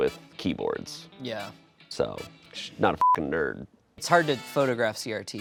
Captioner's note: beep